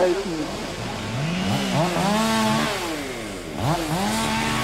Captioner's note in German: Motorsägen